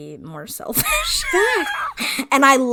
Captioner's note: laughs